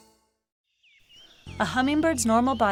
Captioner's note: bird chirping